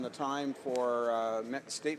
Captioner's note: some Applause